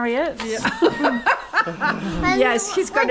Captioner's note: laughter